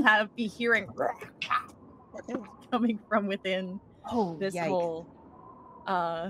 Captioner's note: grunts